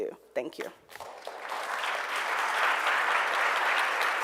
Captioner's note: applause